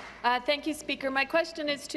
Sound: applause

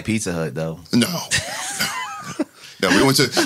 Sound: laughing

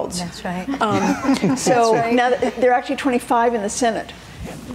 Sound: laughing

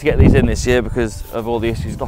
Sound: wind whishing

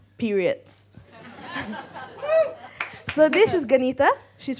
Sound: audience laughing

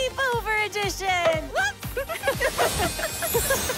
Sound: both laughing

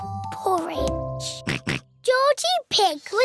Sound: oinks

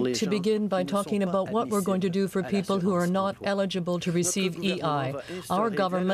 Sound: speaking French

